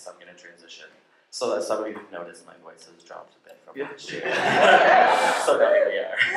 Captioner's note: laughter